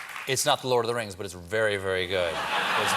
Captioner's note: applause